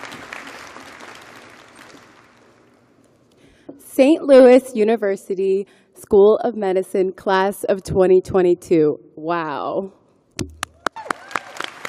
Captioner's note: applause